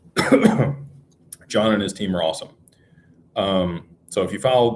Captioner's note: cough